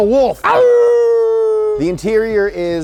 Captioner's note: howls